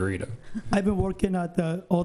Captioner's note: laughs